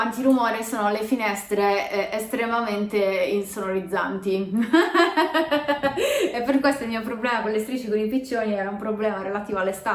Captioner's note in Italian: risata